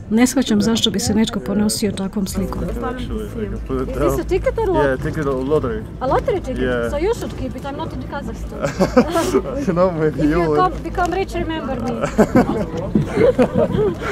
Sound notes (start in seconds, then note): 8.4 laughing; 11.5 laughing